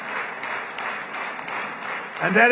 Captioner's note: applause